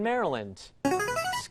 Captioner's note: ringer